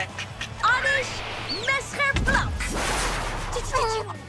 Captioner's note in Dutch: lasergeluid; knal